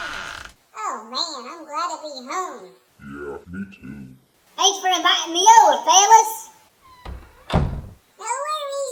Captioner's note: door open & squeaks; door closes